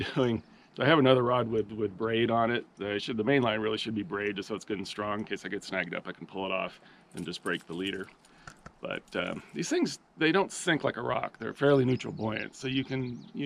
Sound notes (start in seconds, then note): 0.0 chuckling; 9.1 tackle rattling